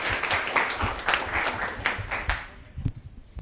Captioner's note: applause